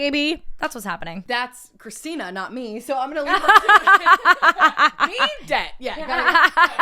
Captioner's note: both Laugh